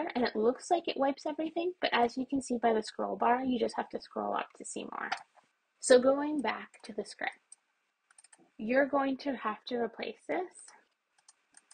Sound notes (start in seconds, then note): 5.0 mouse movement; 8.1 mouse clicks; 11.2 keyboard clicks; 11.2 mouse clicks